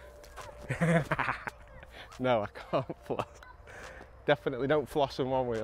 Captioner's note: laughs